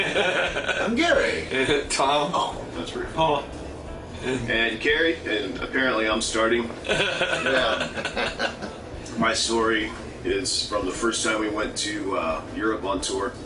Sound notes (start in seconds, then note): 6.8 laughter